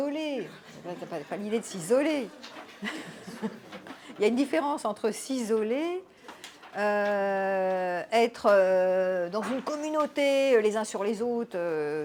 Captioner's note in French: rires